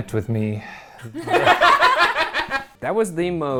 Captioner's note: all laughing